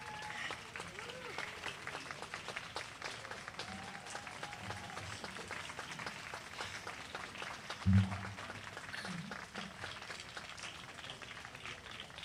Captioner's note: applause